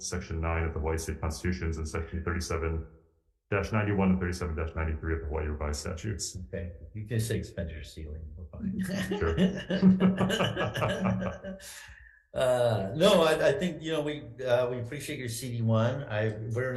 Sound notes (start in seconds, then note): 8.7 all laughing